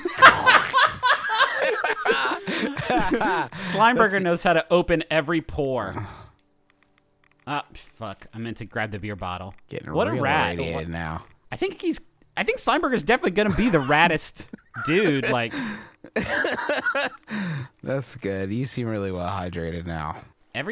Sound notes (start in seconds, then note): 0.0 laughing; 15.2 laughing